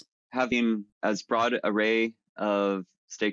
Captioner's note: none